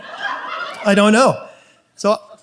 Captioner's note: audience laughs